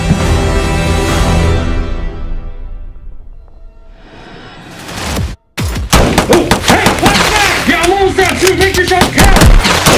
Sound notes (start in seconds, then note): 1.2 music stops; 5.8 gunfire